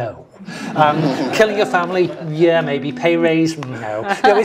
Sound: laugh

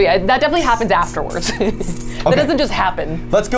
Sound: laughs

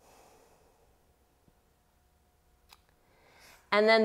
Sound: heavy breathing

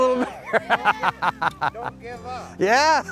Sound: laughs

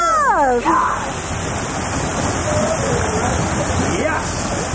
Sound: water current splashing

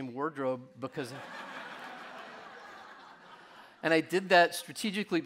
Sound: audience laughing

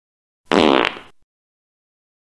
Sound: fart

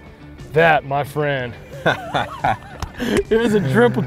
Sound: laughing

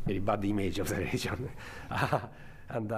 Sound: chuckles

